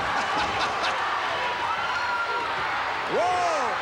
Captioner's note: Vince chuckles